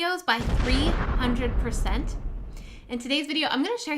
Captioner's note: explosion